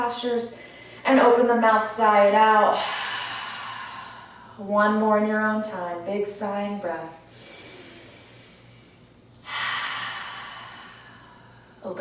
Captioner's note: sigh